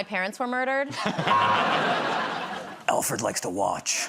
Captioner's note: laughter